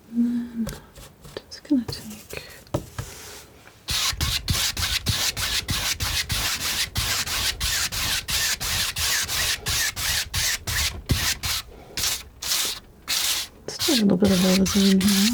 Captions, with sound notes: and then just gonna take [scratching] just take a little bit of all this in here